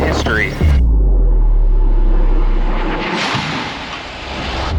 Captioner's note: aircraft whooshing